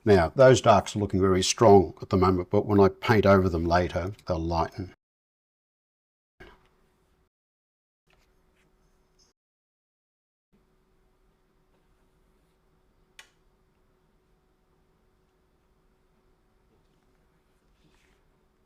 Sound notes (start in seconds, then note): 5.0 silence